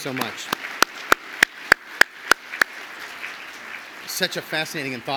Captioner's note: audience applauds